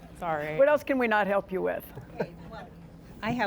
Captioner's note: laughter